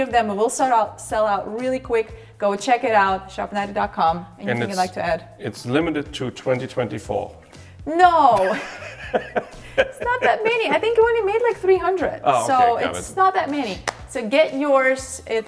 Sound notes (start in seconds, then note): 8.2 laughing